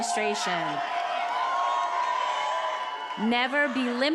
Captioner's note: attendees applauding and cheering